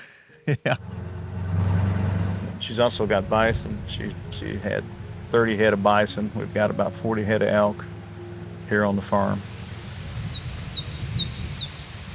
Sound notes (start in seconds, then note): 6.5 bird chirping